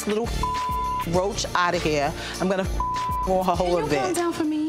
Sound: beep

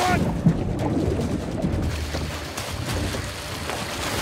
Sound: splashing

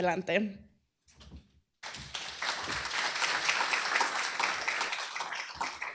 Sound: applause

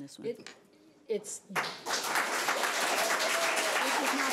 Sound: audience applauding

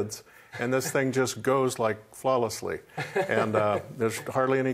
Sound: laughs

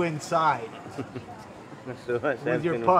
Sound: chuckles

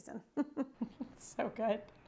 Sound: chuckles

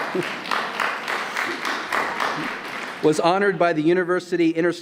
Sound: applause

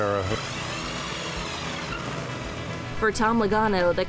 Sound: tires squeal

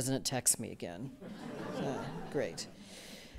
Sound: audience chuckling

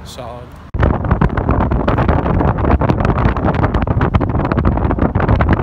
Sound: wind buffets microphone

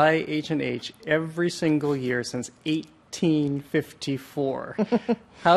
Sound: chuckles

